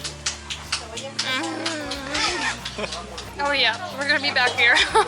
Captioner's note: laughter